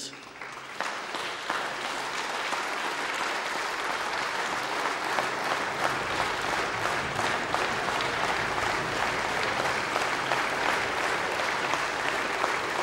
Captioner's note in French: Applaudissements